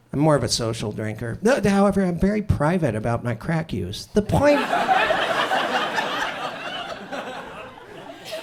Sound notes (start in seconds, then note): 4.4 audience laughs